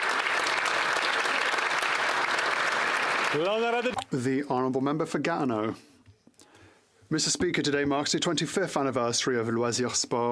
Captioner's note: applause